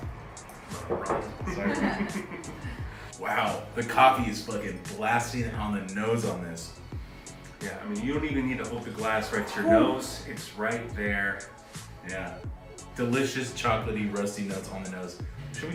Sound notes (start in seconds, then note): 1.4 crowd laughing